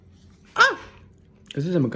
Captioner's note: screeches in spanish